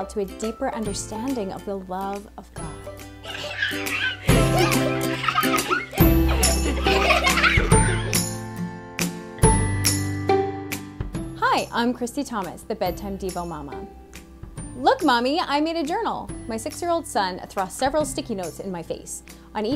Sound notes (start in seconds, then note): 3.2 kids giggling; 3.5 cheerful music